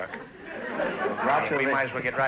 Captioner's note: audience laughter